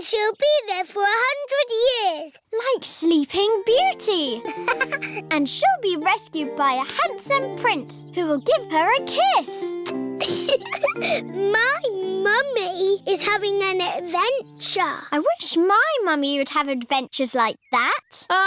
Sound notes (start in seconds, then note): 4.4 laughs; 9.8 air kisses; 10.2 giggles